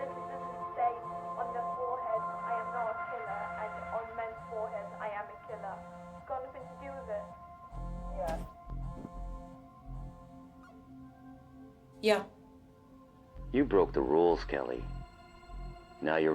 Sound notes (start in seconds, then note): 0.1 phone vibrates; 4.0 phone vibrates; 9.0 brooding electronic music